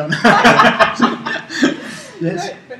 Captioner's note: laugh